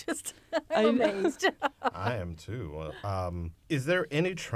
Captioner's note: laughter